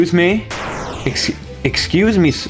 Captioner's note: Nightmare Fredbear Explodes